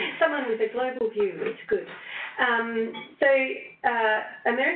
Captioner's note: laughing